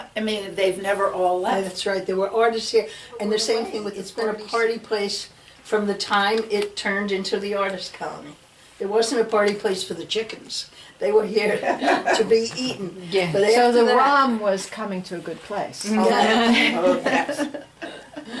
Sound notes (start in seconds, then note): 11.4 laughs; 16.4 all laugh